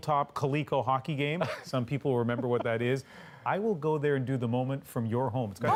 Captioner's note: laughter